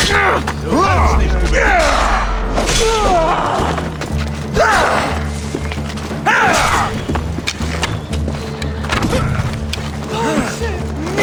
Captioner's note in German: stöhnen; schreien; stöhnen